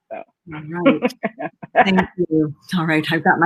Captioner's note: laughing